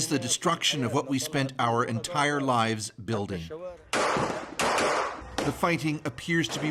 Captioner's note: speaking alternate language